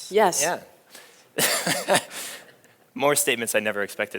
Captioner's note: laughs